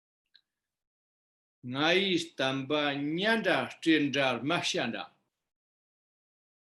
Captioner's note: tibetan